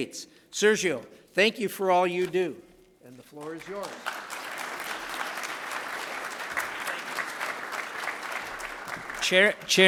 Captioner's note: applause